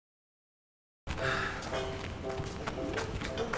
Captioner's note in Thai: เห้อ; ดนตรีสนุก